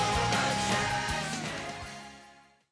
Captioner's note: clap